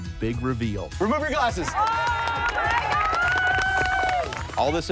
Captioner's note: cheering